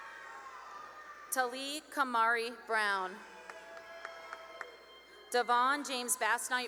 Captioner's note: cheering and applause